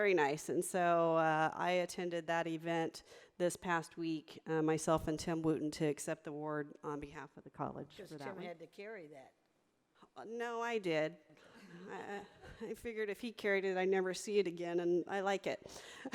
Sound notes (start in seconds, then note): 11.3 audience laughing